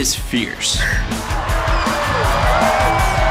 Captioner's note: Joey hisses; upbeat music